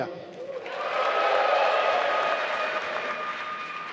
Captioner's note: applause